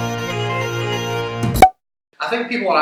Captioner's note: satisfying "Pop"